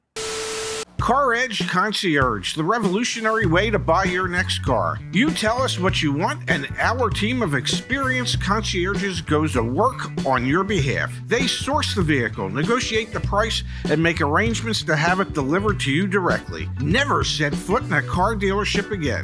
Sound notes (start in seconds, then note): 0.1 Static